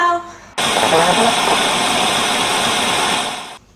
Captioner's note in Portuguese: som de TV dessintonizada